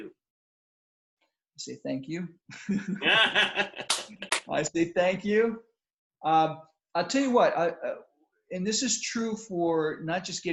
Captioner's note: laughter